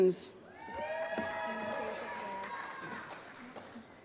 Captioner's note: applause